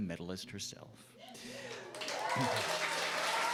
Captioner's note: applause